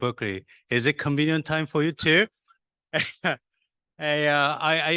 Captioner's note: chuckles